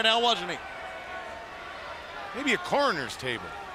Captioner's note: crowd chatter